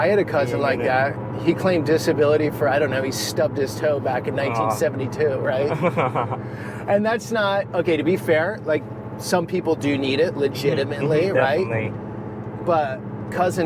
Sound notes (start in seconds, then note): 5.6 chuckles